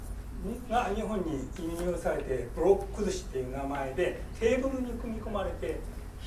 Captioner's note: speaking in foreign language